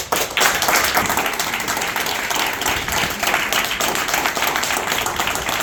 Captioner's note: applause